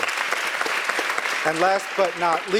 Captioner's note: applause